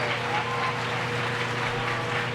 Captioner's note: applause